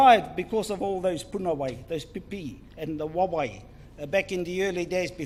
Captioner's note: speaks in foreign language